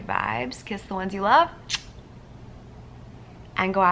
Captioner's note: blowing kiss